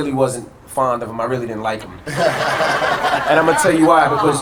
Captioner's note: audience laughter